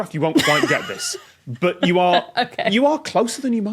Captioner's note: giggles